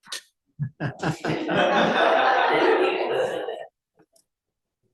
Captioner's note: audience laughs